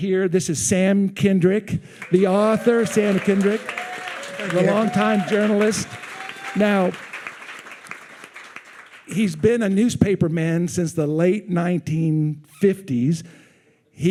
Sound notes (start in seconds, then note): 7.0 attendees cheering